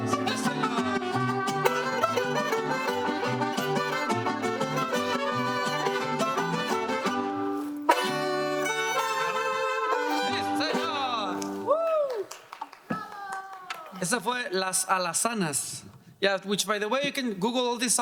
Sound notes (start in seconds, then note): 11.8 audience applauding